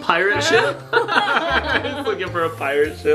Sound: parents laughing

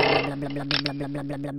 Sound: blub blub blub blub blub blub blub; grind; click

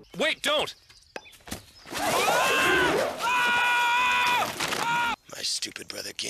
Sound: incoherent yelling

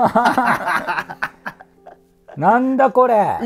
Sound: laughing

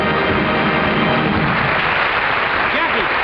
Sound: audience applauds; band finishes playing; audience applauds

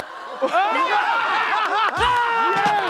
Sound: cheering

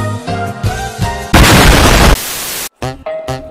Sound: booooooom

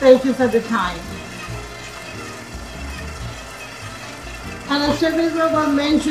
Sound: machine whirring

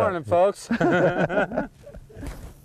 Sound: laughter

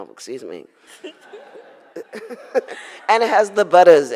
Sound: audience laughs

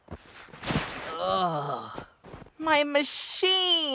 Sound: groaning

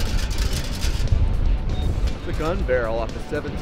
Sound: rock music; metal clanging

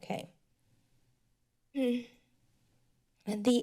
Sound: sigh

